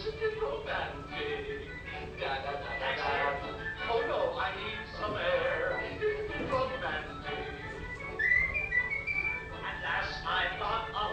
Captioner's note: whistling